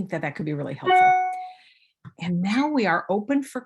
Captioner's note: audio feedback